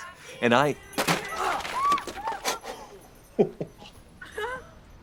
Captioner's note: group squeals